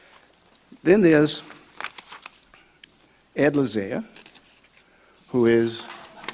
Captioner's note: audience clapping